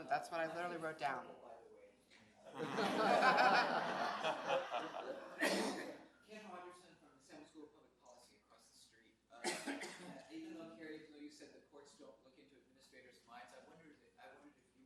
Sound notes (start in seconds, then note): 4.4 audience laughs